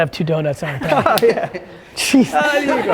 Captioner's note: laughs